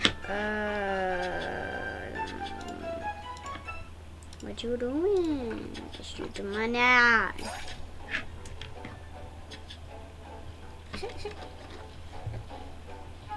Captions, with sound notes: Uh, I. What you doin? With the. Money? *giggles*